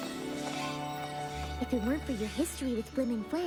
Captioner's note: tinkling